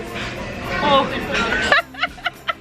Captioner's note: groans; laughing